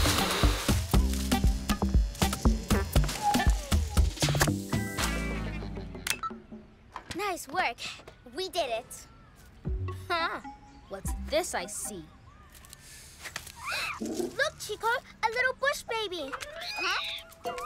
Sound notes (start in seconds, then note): 13.4 chitters softly; 16.1 squeaky chittering